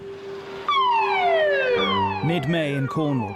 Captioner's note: alarm blares